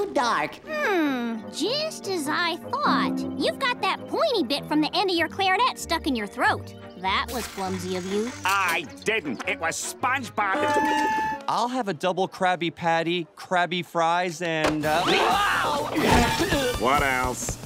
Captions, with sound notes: Hmm. Just as I thought. You've got that pointy bit from the end of your clarinet stuck in your throat. That was clumsy of you. I didn't. It was SpongeBob- [clarinet playing] I'll have a double Krabby Patty, Krabby fries and one, uh- [groaning] What else?